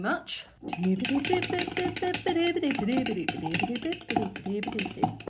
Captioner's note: humming